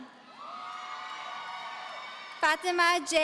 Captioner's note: audience cheering